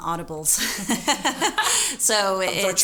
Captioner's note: laughing